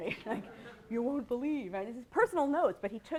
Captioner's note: laughter